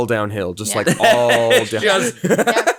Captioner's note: laughs